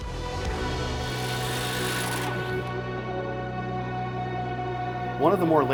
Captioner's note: drill motor turning